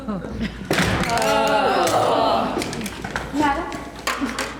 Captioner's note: groaning